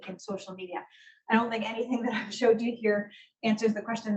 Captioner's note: laughs